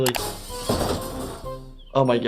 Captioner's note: glass shattering